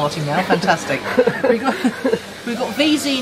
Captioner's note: laughing